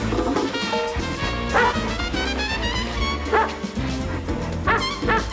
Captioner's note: dog barking